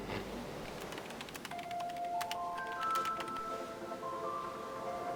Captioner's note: keyboard clicks